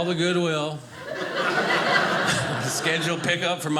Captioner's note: audience laughing